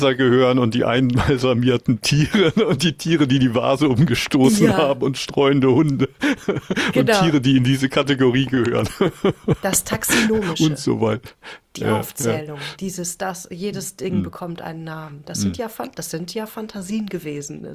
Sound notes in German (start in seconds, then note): 8.6 gelächter